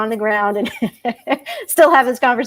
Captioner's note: laughs